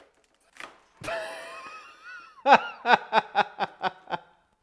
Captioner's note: laughter